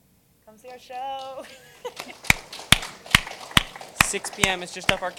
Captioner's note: applause; laugh